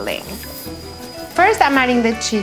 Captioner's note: whistling